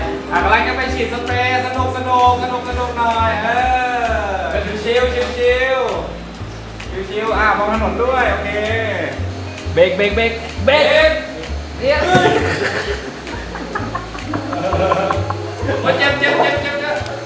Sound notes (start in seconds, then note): 11.8 laughs